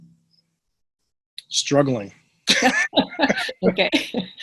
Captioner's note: laughter